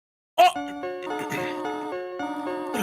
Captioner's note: stammers; gentle music